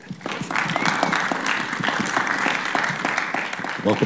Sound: applause

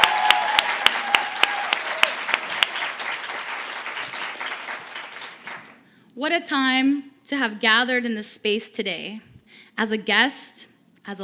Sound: cheers and applause

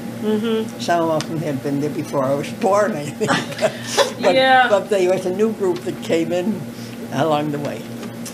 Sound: laughter

